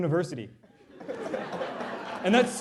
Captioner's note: laughter